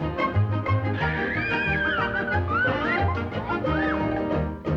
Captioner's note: riders scream